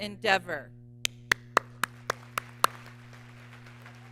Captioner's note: applause